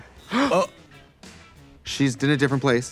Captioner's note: both gasping